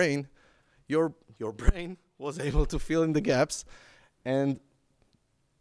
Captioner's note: laughs